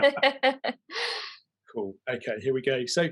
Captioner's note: both chuckle